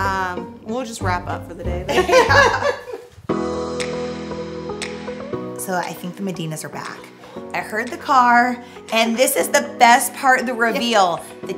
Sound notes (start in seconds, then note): 1.9 both laugh; 3.3 upbeat music